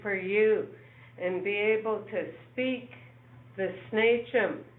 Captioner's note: speaking in foreign language